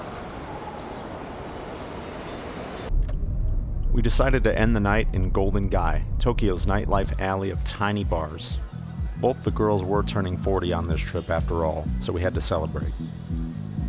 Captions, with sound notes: (Voiceover) We decided to end the night in Golden Gai, Tokyo's nightlife alley of tiny bars. Both the girls were turning 40 on this trip, after all, so we had to celebrate.